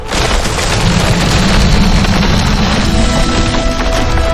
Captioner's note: footsteps thudding